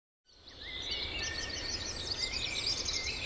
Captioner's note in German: Vogelzwitschern